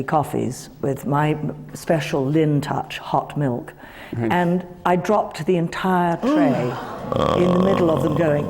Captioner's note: gasps